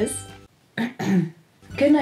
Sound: clears throat

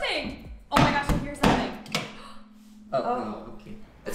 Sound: gasps

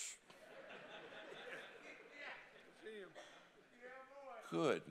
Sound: congregation laughing

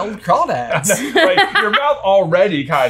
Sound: laughing

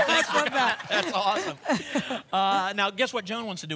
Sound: laughter

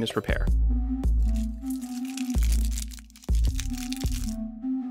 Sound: crinkling sounds

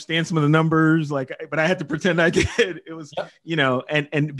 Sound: chuckles

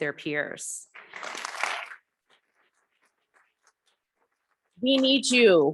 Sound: audience clapping

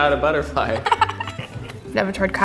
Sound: all laughing

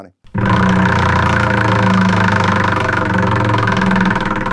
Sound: wheel spinning

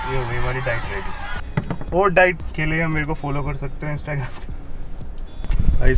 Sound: sarcastically

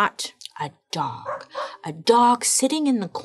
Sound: dog barking

